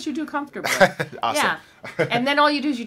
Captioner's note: laughs